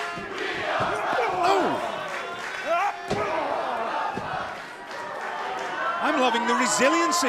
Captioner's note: fans chanting